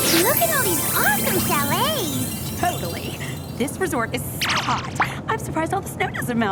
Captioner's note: none